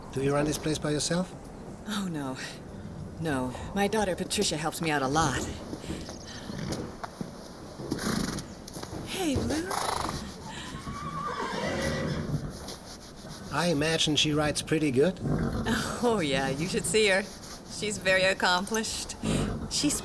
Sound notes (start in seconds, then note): 11.1 horses whinnying